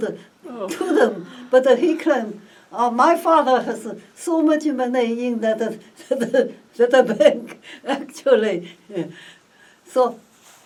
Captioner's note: laugh